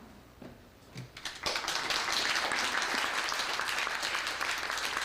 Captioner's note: applause